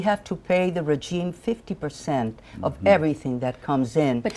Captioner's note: speaking in spanish